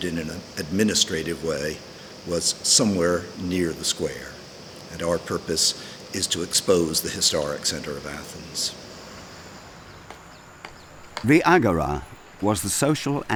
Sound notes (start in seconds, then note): 10.6 hammer tapping